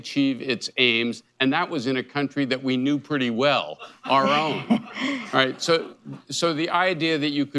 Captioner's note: laughter